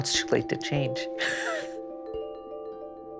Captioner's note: laughs